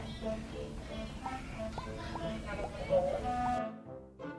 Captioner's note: popping sounds